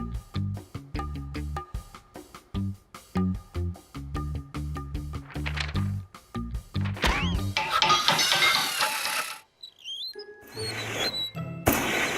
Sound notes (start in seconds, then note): 7.5 hammering and metal clanging; 8.2 wheels squeaking